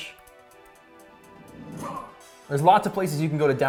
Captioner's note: grunts